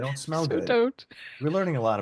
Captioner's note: laughs